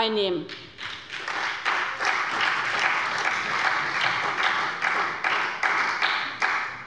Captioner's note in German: Beifall bei der SPD